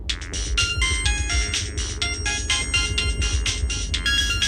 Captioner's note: phone rings